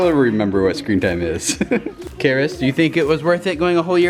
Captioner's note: laughs